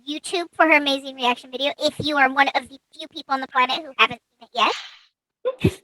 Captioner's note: laughs